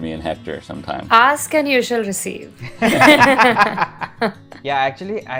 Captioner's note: laughter